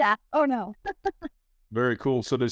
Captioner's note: laughs